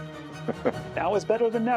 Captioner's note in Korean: 웃음